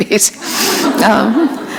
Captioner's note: laughter